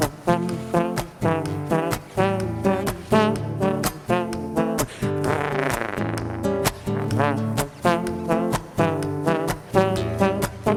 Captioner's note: vocal trombone